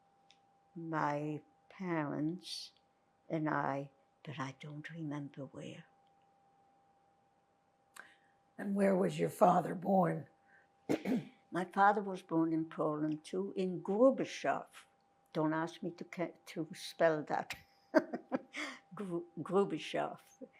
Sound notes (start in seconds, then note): 10.9 clears throat; 17.9 laughing